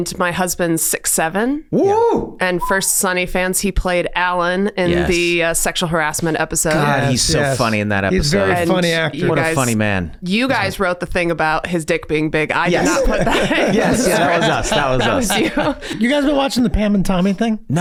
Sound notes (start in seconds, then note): 12.6 gang laughing